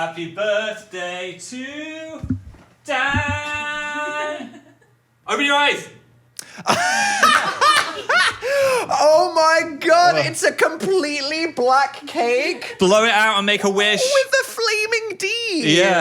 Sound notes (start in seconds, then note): 4.1 producer laughs; 6.6 laughs